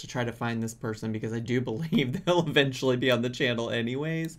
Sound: laughs

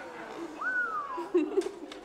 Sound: man whistling; laughing

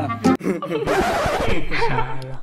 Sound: laughing

